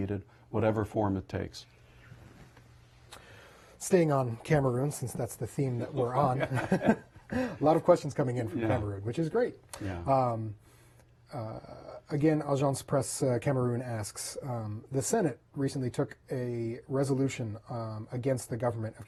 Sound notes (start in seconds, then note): 5.8 laughter